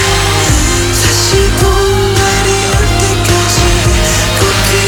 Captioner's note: wrinkling